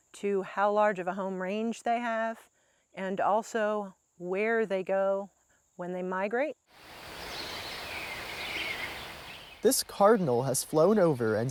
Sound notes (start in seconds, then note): 6.8 birds chirps